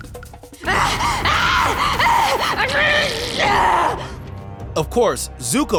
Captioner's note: screaming